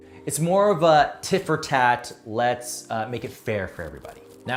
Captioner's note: none